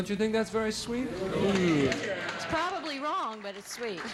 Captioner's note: audience applauding